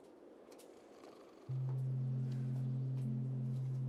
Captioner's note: snoring